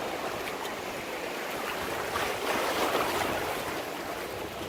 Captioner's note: water splashing